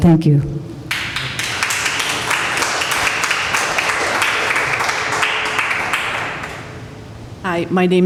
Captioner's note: applause